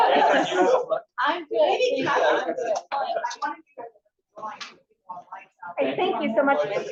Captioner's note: audience laughs; people chatter indistinctly